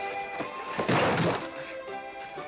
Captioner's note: crash